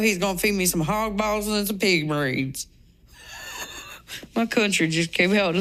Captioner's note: laughs